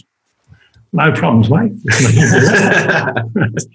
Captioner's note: they laugh